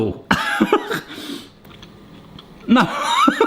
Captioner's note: laughs